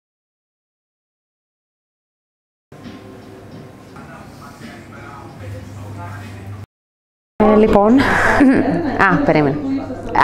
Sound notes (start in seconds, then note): 3.9 people chatting in a cafeteria